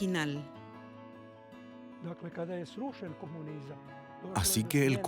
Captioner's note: Hablando idioma extranjero